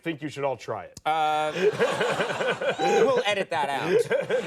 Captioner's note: laughing